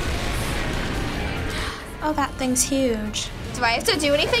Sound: building crumbles; gasps

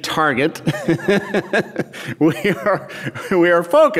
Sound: laughs

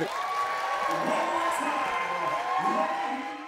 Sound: cheers

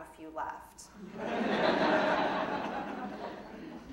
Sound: audience laughing

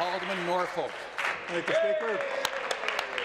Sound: applause

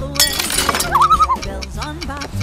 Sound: loon call

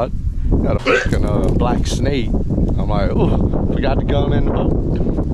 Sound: swearing

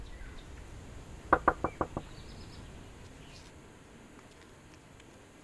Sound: door knocks

